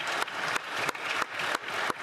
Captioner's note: applause